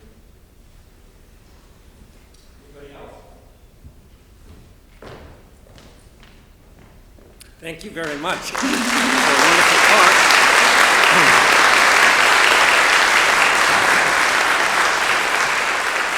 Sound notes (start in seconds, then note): 10.5 applause